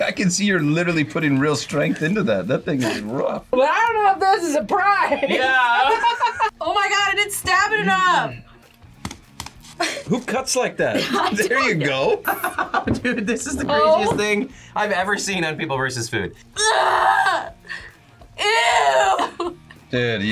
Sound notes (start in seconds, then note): 5.0 laughs; 12.5 laughs; 19.0 laughs